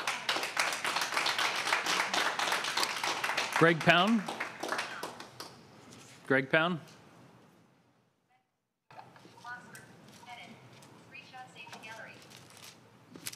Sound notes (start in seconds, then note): 4.2 applause